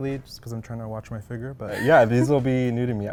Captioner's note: laughs